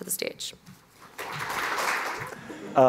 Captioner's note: applause